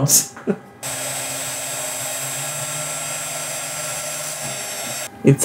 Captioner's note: chuckles; CNC machine noise